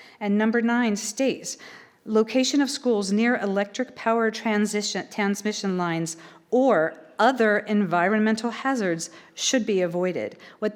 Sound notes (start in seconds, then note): none